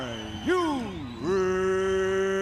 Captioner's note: crowd cheering